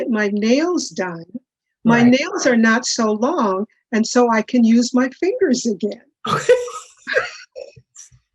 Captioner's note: laughter